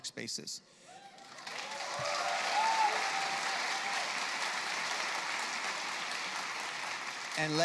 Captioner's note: applause